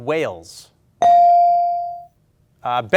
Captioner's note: ding chimes